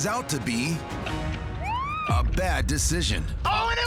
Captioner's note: siren wails